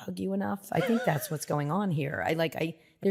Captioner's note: laughs